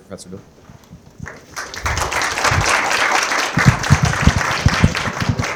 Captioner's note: applause